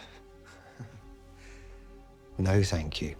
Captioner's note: Det. Antern laughs